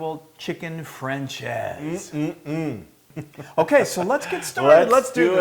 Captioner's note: laugh